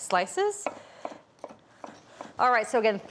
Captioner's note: knife tapping